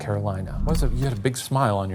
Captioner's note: screen whooshing